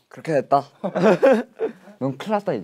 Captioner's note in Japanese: アハハ